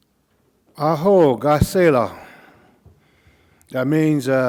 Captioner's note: speaking Cauijoga